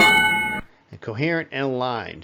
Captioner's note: ding